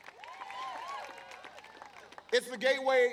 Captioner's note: applause